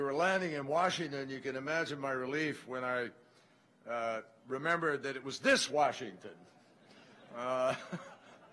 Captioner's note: laughter